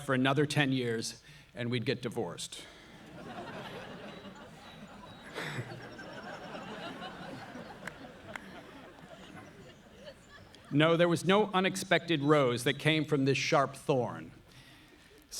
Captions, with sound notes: for another 10 years, and we'd get divorced. (audience laughing) (Noah laughs) No, there was no unexpected rose that came from this sharp thorn.